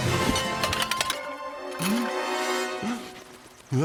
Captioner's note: gasps